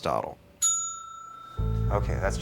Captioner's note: bell dings